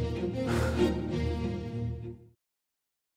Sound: sighing

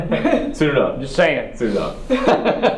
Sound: laugh

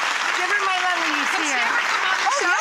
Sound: audience applause

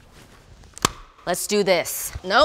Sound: glove snapping

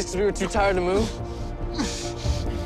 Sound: grunting

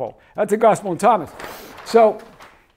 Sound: page shuffles

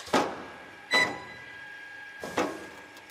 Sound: beep

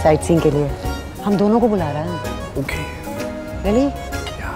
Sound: whispers

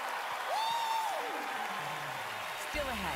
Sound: cheering, applause

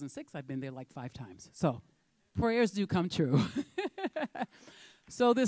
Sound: chuckles

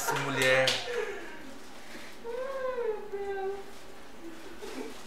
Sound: laughs and claping

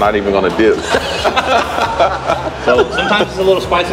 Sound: laughing

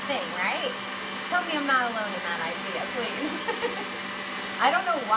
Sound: laughs

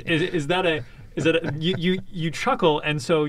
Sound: laughs

